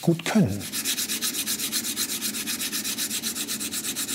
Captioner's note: grinding noise